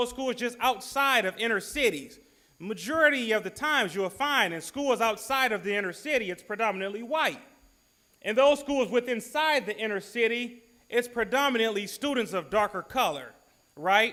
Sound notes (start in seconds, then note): none